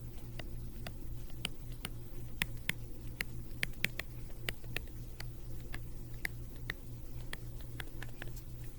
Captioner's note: typing